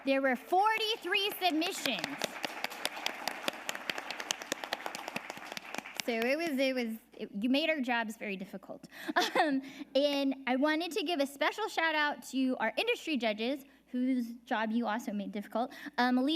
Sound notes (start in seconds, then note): 2.4 audience applauding; 9.0 laughs